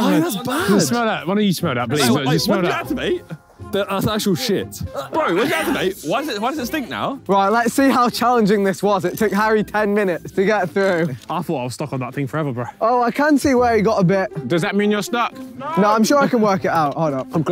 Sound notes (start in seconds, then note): 5.1 cameraman retching